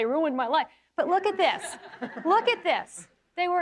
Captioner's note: audience laughing